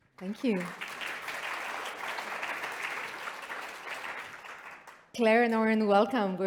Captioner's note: applause